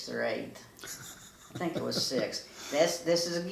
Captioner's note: laughs